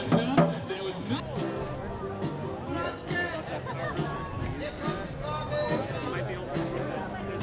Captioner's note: audeince noise